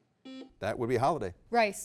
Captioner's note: beep